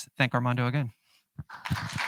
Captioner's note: applause